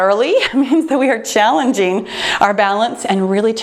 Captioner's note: giggles